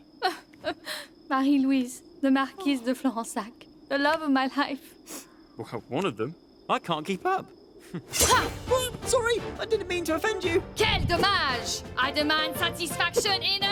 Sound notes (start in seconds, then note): 7.7 grunts